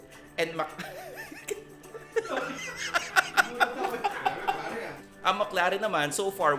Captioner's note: laughs